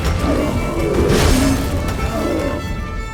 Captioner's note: Quen shield explodes